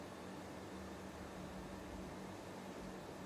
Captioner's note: none